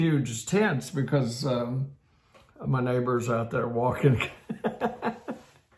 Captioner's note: laughs